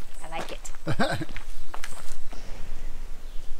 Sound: laughs

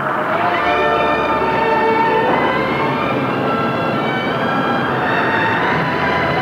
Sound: storm raging; dramatic, forlorn music

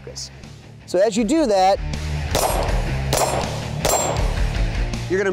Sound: gunshots

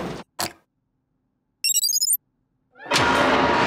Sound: beeping

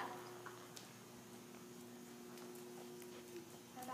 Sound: horse walking

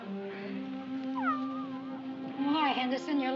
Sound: cat meows

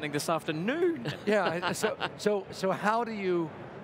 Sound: laughs

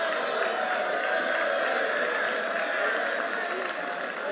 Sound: cheering and applause

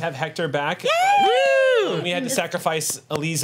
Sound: group cheers

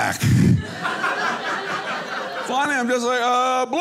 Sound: audience laughing

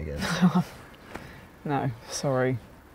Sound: laughter

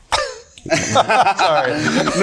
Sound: group laughing

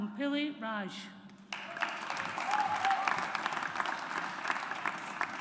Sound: audience applauds

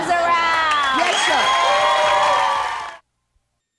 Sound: cheering

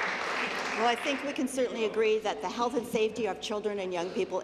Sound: applause

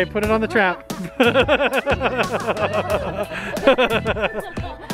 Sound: everyone laughs

